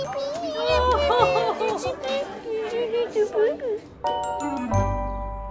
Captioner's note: chuckles; calm music